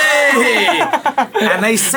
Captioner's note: laughing